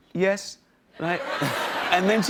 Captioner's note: laughter